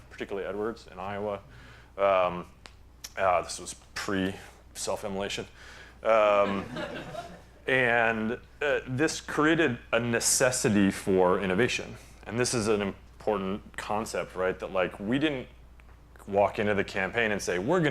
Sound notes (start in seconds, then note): 6.4 laughter